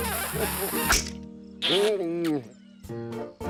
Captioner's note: mutters